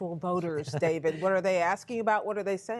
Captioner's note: laughter